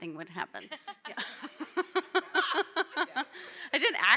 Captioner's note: panelists laughing